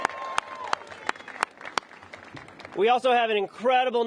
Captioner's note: applause